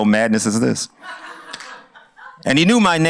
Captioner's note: laughter